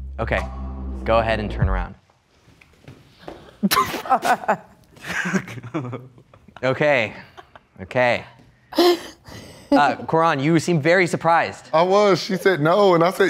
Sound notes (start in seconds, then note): 3.6 laughs